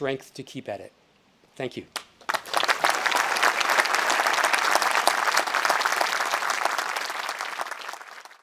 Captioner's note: audience applauding